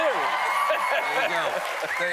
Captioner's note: cheers and applause